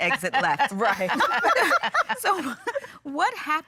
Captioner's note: laughing